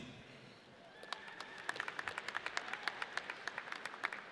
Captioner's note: audience cheers